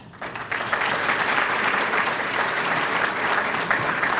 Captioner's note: applause